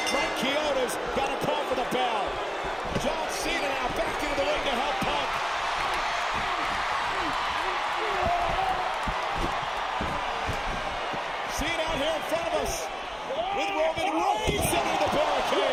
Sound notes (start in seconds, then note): 0.0 bell rings; 2.5 crowd boos; 5.6 crowd cheers